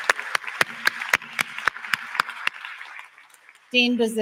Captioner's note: applause